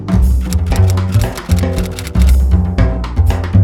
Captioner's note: typewriter clicking